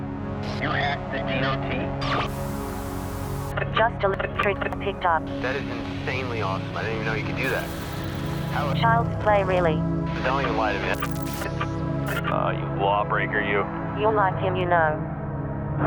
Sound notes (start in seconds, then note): 0.2 radio conversation; 2.1 static